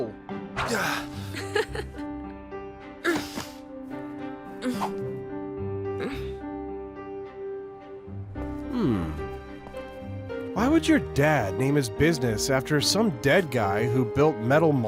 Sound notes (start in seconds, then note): 0.8 laughs